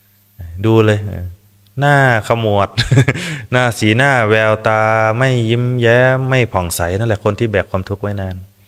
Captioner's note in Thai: เสียงหัวเราะ